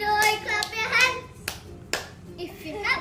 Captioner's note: clapping hands